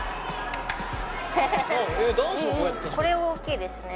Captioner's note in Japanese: 男性ファンの歓声も